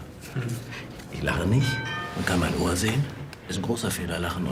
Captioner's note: bell chimes